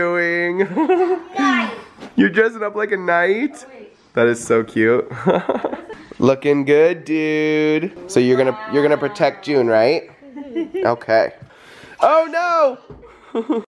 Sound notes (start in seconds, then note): 0.6 laughs; 5.1 laughs; 10.0 laughs